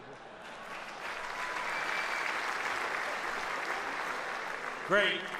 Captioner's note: audience applauds; audience laughs